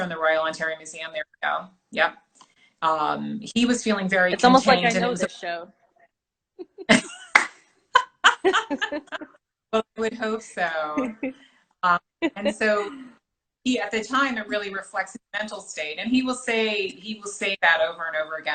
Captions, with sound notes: Royal Ontario Museum there we go, yep um he was feeling very... -It's almost like I know the show. (laughter) -I would hope so! And so he at the time it really reflects his mental state and he will say he will say that over and over again